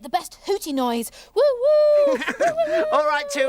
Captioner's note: Iver laughs; Tula hooting